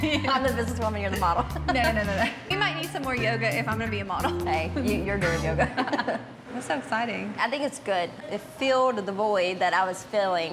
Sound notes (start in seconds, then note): 5.4 both laughing